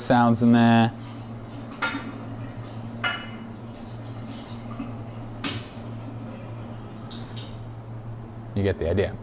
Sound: kitchen sounds

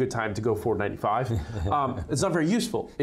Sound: laughter

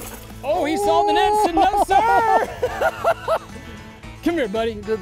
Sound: laughs

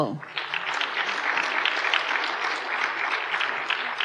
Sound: applause

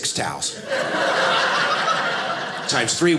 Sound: audience laughing

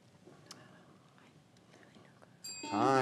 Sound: faintly speaking

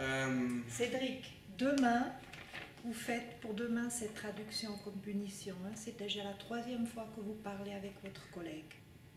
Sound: speaking French

